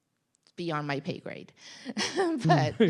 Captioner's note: chuckles